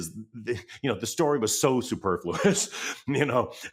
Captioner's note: laughs